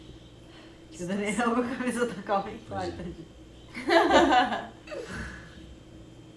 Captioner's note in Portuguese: Risos